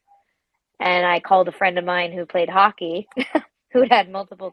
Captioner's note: laughs